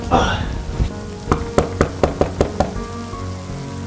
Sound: knocking

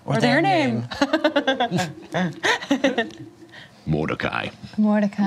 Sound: laughs

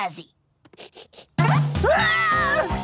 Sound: sniffing

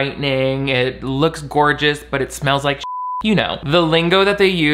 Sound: beep

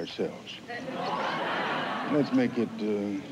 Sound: laughter

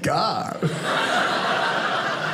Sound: audience laughing

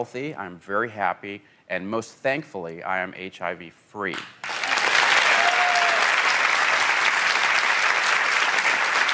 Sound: applause

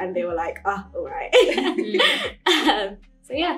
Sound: laughs

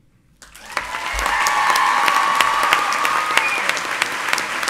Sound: audience cheers

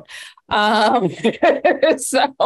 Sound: laughing

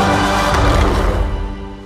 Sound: roar

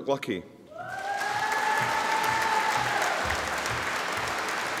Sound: audience applauding

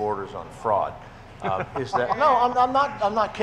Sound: people chuckling

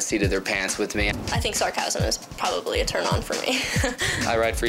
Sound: laughs

